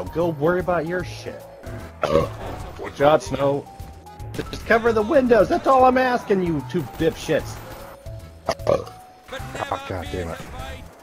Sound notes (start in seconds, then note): 2.0 burps; 8.4 burps